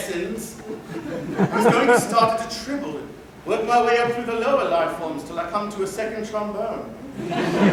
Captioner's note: laughter